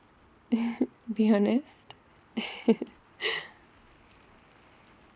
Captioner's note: laughs